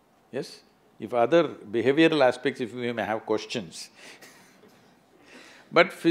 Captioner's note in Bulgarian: смее се